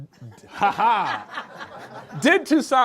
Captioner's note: group laughs